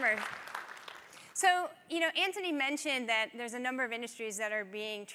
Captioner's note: applause